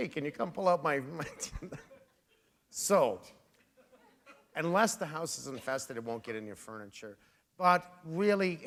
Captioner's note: chuckle